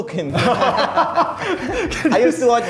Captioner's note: both laughing